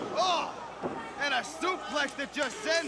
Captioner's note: crowd chatter